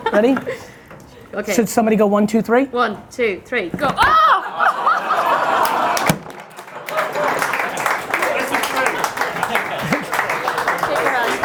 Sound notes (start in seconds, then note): 0.2 laughs; 4.1 audience cheering